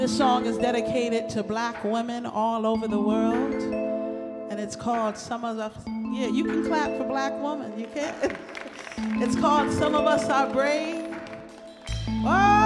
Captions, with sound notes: - This song is dedicated to black women all over the world, and it's called, yeah, you can clap for black women. You can. (audience applauds) It's called "Some of Us are Brave."